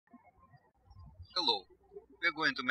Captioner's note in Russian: птички щебечут